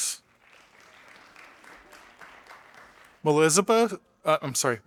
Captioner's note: audience applauding